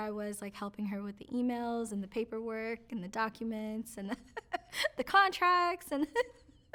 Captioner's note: laughs